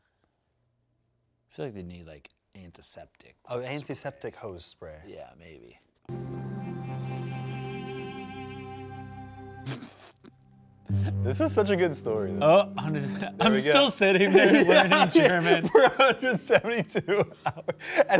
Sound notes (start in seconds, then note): 6.1 dramatic music; 9.6 laughs